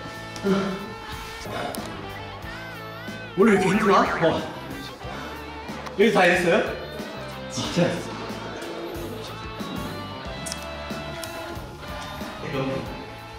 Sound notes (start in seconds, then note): 0.3 gasping